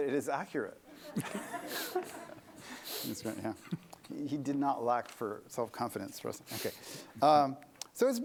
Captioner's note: laughter